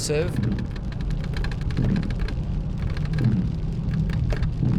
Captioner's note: rain splatters